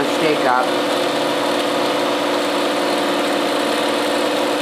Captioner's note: machine whirring